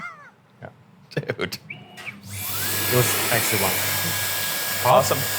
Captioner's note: laughing; machine whirring